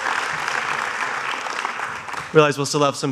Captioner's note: applause